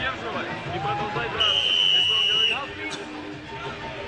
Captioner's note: whistle blows